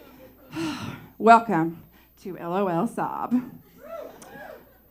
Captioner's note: sob